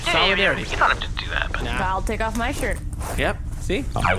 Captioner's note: more rustling